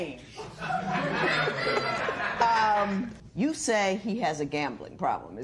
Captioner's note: laughter